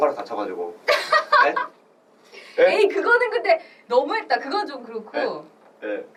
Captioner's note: laughs